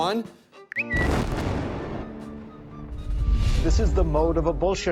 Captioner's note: bomb exploding; bird tweeting